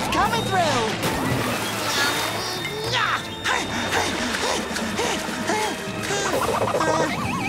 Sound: grunting

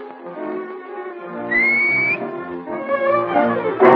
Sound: whistles

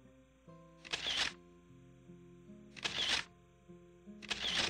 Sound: camera clicks

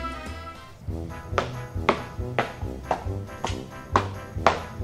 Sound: feet stomping

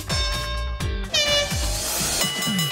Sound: horn blowing

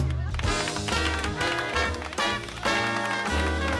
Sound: aplausos para solo

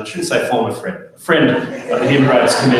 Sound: audience laughs

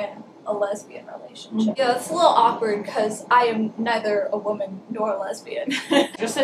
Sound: laughing

